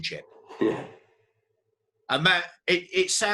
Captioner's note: laughs